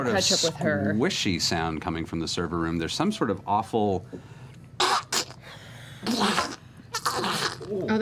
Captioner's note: squishy noises